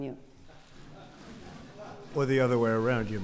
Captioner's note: laughter